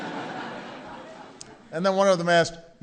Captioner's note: laughter